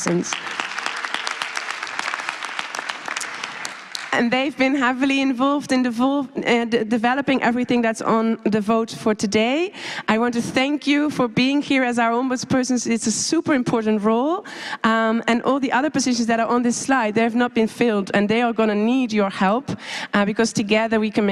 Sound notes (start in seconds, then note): 5.4 applause